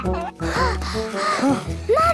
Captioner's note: children giggling; panting